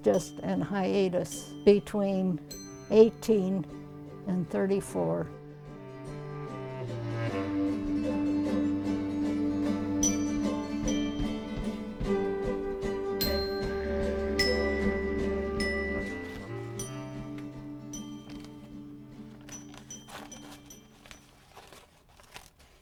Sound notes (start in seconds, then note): 5.3 crumpling sound